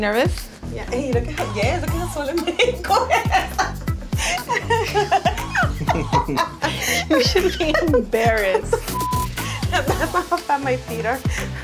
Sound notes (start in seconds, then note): 8.8 beeping